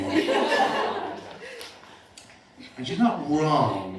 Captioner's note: laughter